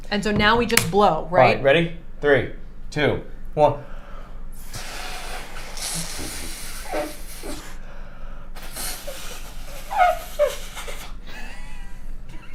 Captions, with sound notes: - So now we just blow, right? - All right, ready? Three, two, one. (both blowing air)